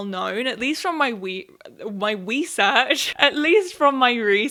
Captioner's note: laughs